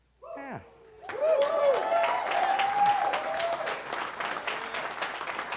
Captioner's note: audience cheering